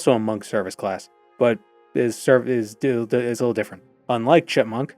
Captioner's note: stammering